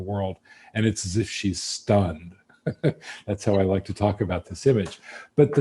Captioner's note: laughs